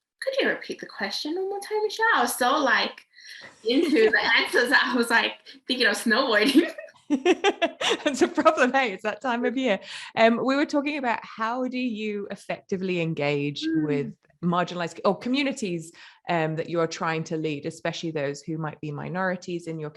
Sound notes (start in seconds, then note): 6.4 laughs